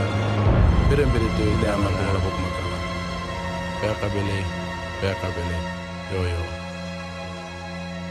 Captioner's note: man speaks indigenous language